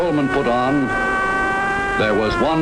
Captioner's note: siren wailing